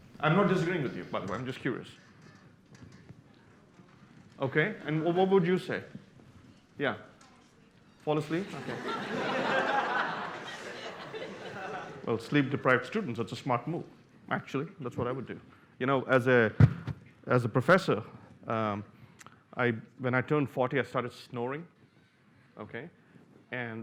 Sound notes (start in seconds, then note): 8.4 laughter